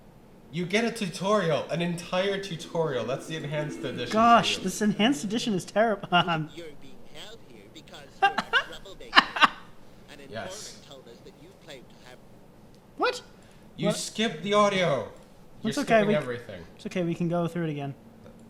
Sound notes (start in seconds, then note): 6.7 laughs; 9.1 laughter intensifies